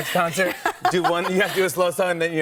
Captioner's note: laughing